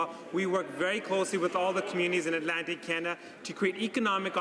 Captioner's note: none